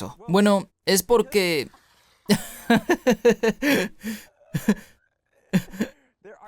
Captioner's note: risas